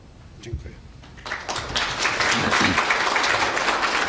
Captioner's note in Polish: oklaski